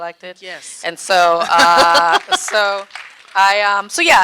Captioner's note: audience clapping